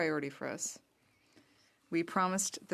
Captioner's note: speaking French